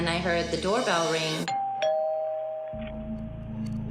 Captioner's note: doorbell rings